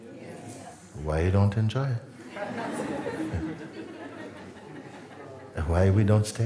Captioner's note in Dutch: gelach